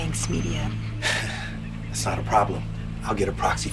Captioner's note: laughing